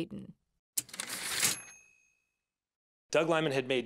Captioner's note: typewriter ding